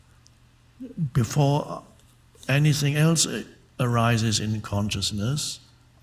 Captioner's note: none